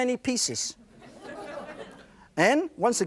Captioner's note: laughter